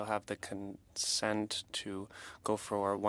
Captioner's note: speaking French